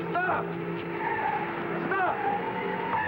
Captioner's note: tires squealing